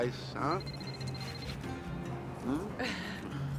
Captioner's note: phone ringing